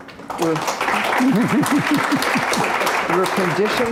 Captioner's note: clapping